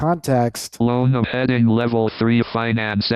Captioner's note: automated Voice